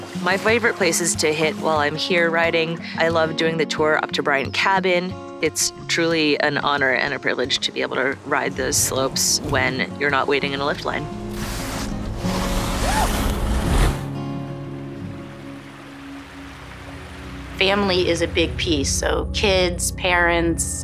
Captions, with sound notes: My favorite places to hit while I'm here riding, I love doing the tour up to Bryant Cabin. It's truly an honor and a privilege to be able to ride the slopes when you're not waiting in a lift line. (snow brushing) (water rushing) - Family is a big piece, so kids, parents